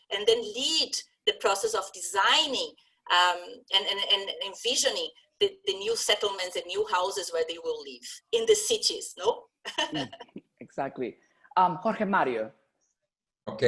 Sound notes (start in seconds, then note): 9.7 laugh